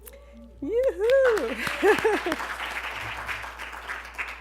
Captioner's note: applause